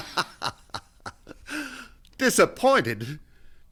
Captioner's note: laughs